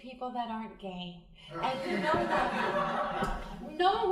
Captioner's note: crowd laughing